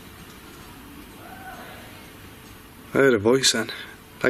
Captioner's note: woman shouting in the distance